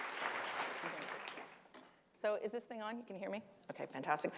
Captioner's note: applause